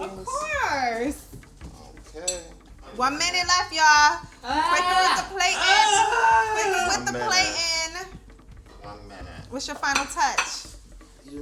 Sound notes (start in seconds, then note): 6.0 Otter exclaims